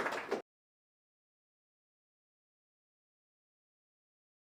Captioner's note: applause